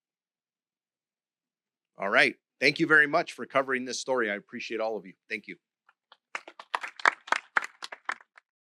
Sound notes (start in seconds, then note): 6.1 applause